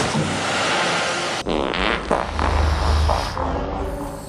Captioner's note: fart